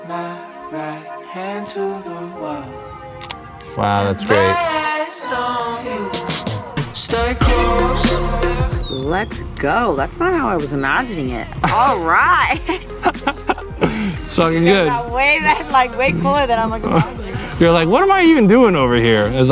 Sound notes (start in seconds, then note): 13.3 both laugh